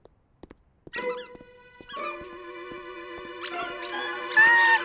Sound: squeakers

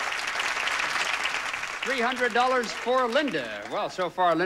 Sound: audience applauding

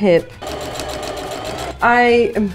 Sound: sewing machine running

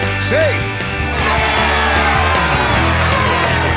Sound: cheering

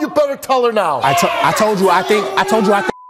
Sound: audience cheers

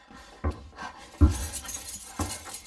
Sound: footsteps; keys jingling

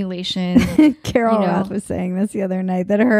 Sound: laughing

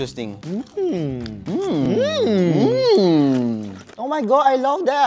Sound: harmoniously moans in impressed

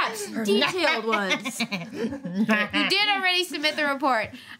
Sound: laughter

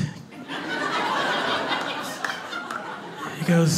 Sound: clapping and laugher

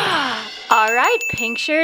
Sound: bell dings

